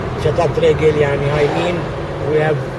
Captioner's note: in Hebrew